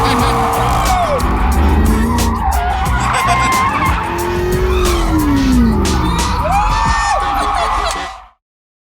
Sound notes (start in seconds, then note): 0.0 laughs; 5.8 cheers and laughs